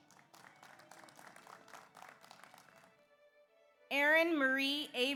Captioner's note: audience applauds